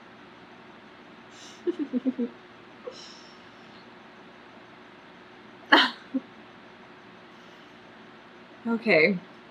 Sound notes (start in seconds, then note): 1.4 laughs; 5.7 clears throat